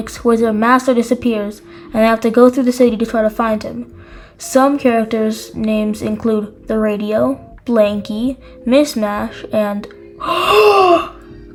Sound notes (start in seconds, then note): 10.2 gasps